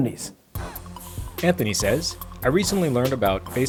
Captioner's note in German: Voice-over